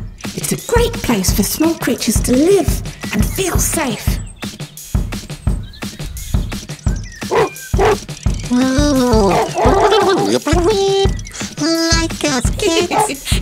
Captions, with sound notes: It's a great place for small creatures to live and feel safe [woof woof] Oowee! Like us Kit? [Kit laughs]